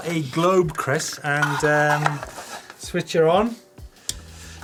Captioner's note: plastic rattles